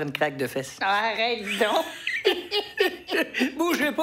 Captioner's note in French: rires